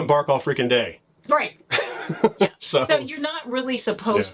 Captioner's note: laughs